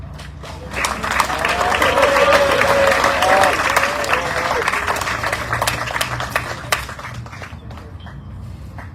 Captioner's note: audience cheering, applauding